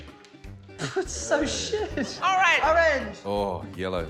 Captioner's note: scoffs